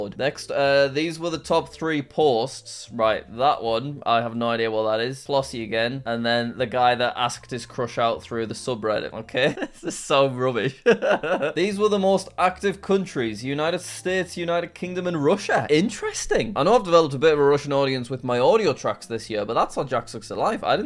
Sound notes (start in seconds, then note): 10.7 laughing